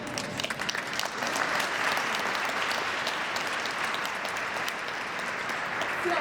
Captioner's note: applause